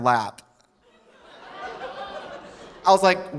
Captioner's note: audience laughing softly